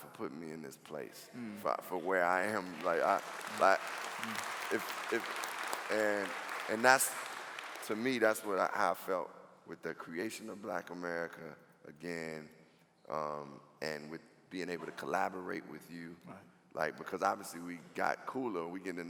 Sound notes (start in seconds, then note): 2.2 clapping